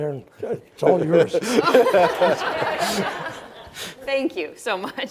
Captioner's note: all laughing